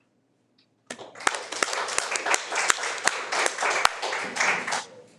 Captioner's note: audience applauds